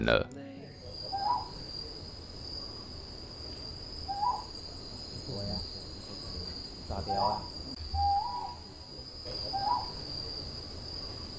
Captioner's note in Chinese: 角鴞的叫聲